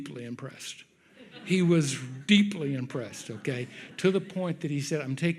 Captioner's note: audience laughs